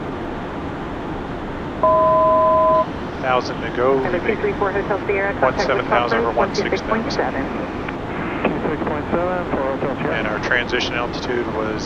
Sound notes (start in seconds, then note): 1.8 altitude Chime